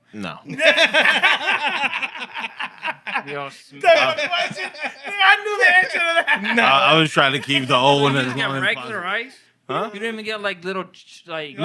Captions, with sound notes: No. (Laughter) You're all sweet. That's my question. I knew the answer to that. No. I was trying to keep the old one as the only problem. You don't even get regular ice? Huh? You didn't even get like, little--